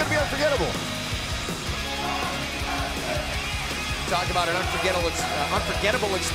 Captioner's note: crowd chatter